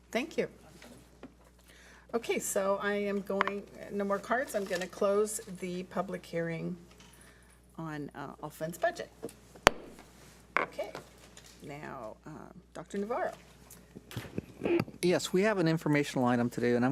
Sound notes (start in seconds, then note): 10.4 gavel bangs